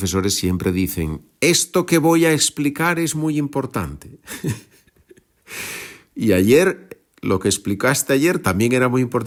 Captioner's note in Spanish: risas